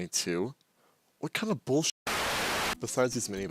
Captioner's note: static